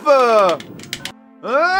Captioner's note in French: Tip tip tip tip